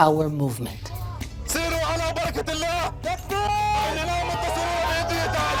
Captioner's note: Arabic spoken audio